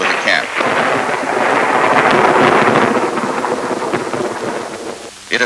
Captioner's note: thunder